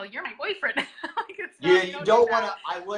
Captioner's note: laughs